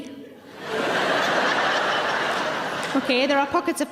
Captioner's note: audience laughing loudly